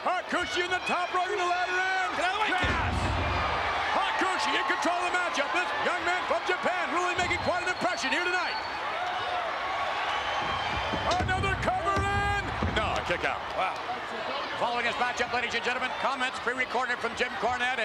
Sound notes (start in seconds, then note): 2.2 Jerry mumbling; 3.4 spectators cheering; 9.3 spectators cheering